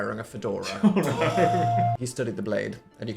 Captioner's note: laughing